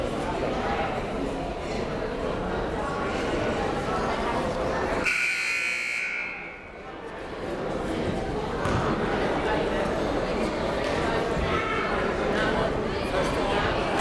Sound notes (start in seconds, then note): 5.0 buzzer blares